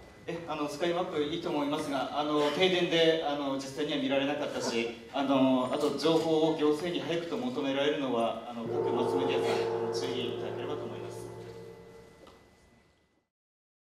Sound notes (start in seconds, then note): 11.1 gong